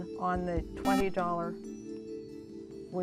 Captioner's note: buzzer